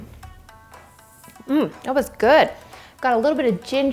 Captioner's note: groans